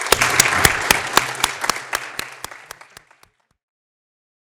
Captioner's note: audience applauding